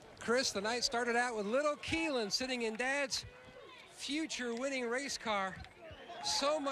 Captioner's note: cheers & applause